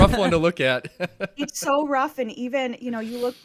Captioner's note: laughs